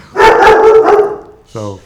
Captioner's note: dog barking